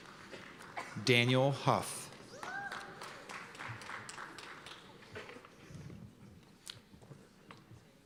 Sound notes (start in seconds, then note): 2.2 cheers and applause